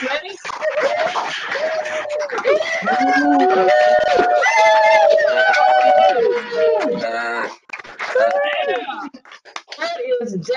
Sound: applause and Cheers

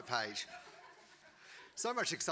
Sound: audience laughing

